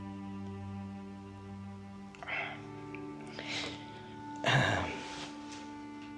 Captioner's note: gives a long sigh